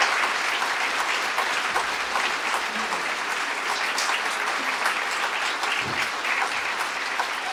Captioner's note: applause